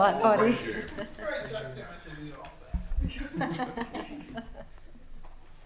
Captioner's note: all laugh